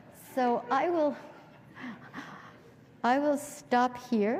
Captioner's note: laughter